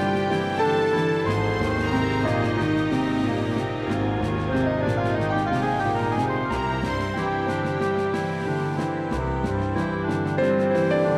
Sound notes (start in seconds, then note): none